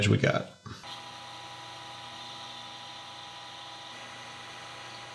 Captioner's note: machinery whirring